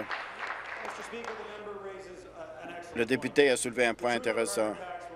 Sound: applause

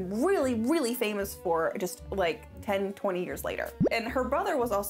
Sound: none

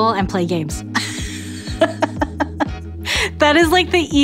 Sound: laughs

